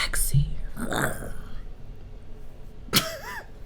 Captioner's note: growls; laughs